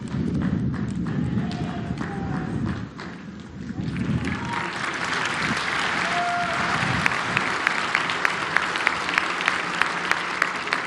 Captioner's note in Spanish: aplausos